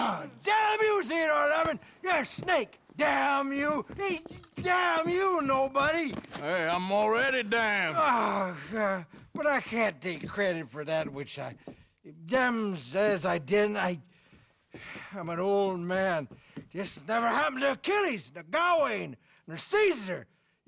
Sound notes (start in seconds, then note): 9.3 grunts